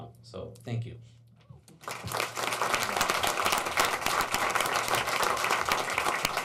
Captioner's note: applauding